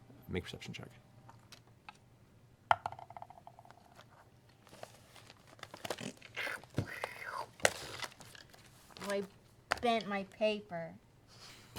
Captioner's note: high voice